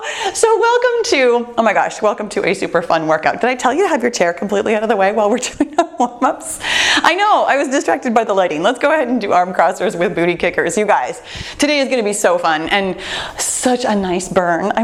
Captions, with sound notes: So welcome to, oh my gosh, welcome to a super fun workout. Did I tell you to have your chair completely out of the way while we're doing our warm-ups (chuckles)? I know, I was distracted by the lighting. Let's go ahead and do arm crossers with booty kickers, you guys. Today is gonna be so fun and such a nice burn.